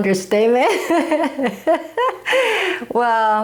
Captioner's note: chuckling